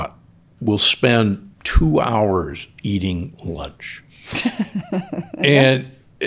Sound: chuckles

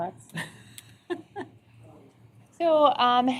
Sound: laughter

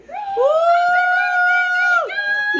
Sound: all cheering

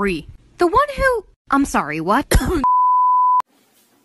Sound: cough; TV Color Bars Sound Effect

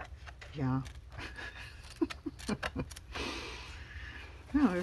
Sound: laughs

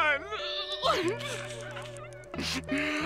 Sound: crying

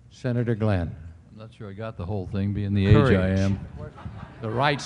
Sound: laughter

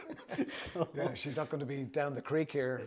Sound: laughter

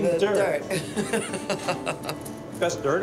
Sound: laughs

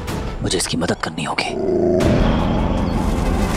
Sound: wolf growling

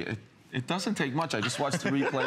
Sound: laughter

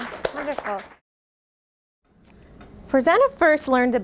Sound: audience claps

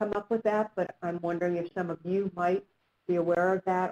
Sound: voiceover

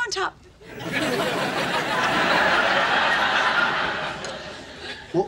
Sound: audience laughing

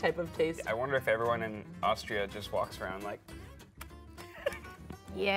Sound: smacks

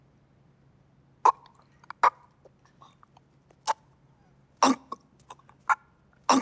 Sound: choking sounds

